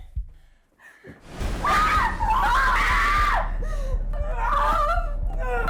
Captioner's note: screams; whimpers